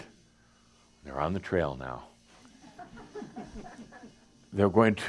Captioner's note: a few chuckles